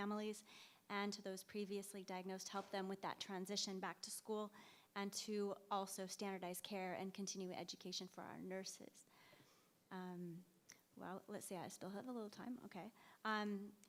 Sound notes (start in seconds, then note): none